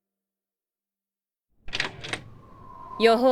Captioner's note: window opens